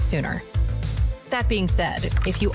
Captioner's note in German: Tastaturgeräusche